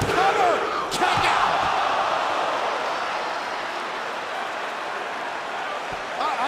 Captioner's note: crowd cheering